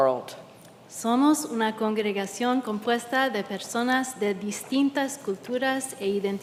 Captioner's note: translator speaking in Spanish